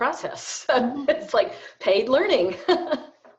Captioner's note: laughs